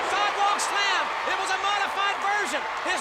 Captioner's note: audience cheers